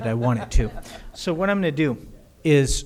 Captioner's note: audience laughter